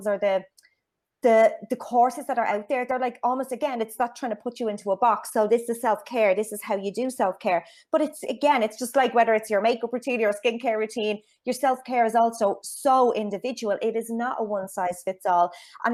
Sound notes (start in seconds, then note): none